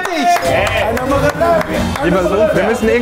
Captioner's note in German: Jubel, Applaus